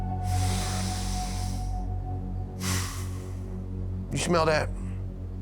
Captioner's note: doolin inhales, exales deeply